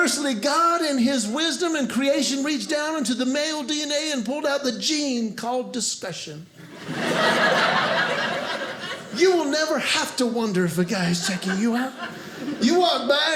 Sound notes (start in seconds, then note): 6.6 audience laughing